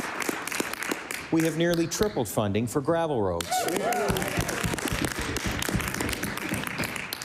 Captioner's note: applause